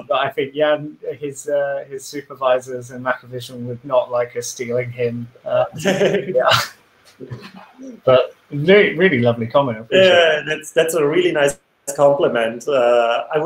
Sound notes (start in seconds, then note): 5.6 laughs